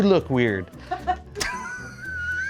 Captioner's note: people laugh